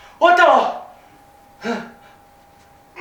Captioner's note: ahem